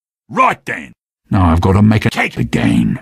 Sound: none

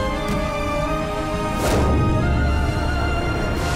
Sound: stomping

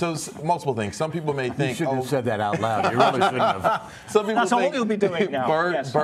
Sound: laughter

